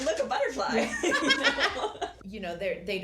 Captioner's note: laughter